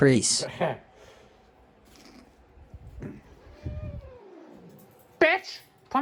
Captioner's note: Caprice growls at Rachael and Ava